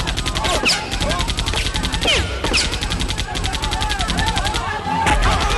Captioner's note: crowd Chattering